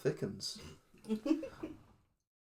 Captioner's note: giggles